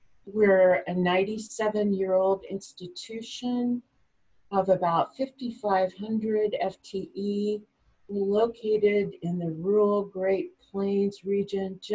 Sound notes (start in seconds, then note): none